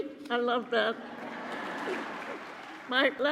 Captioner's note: cheering and applause